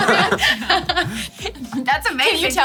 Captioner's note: all chuckling